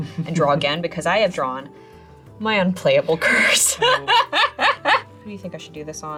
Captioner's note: laughs